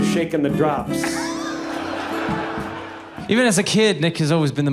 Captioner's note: people laughing